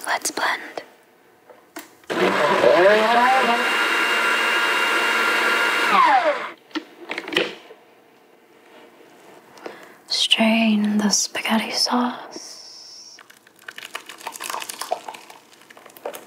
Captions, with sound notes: Let's blend. (blender whirring) Strain the spaghetti sauce. (splashing)